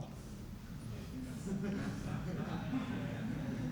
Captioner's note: laughter